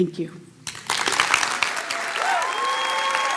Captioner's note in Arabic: تصفيق